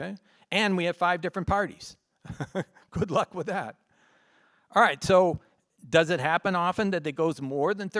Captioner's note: laughs